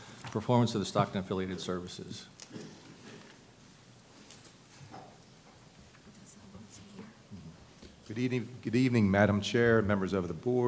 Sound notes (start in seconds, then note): none